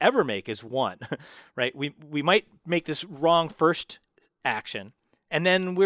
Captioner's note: laugh